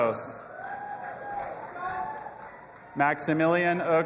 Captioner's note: audience applauding and cheering